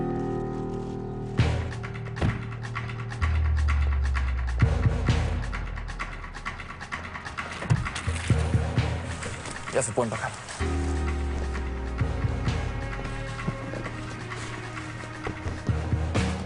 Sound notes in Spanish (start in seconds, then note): 2.2 Portazo